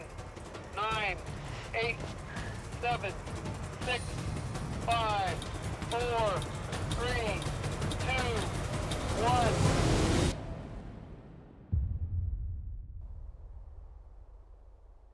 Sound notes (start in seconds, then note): 11.7 thud